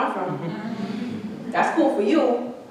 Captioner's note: audience chuckling